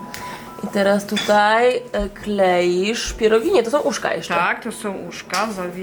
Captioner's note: people conversing in Polish